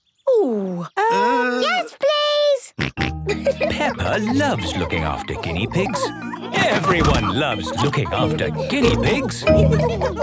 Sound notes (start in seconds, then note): 2.7 snorting and giggling; 9.5 laughter